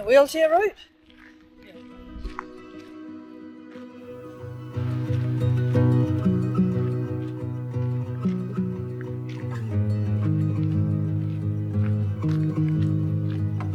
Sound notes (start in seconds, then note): 4.2 crunching gravel; 7.2 jaunty music